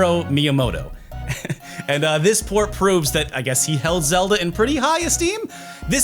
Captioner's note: laughs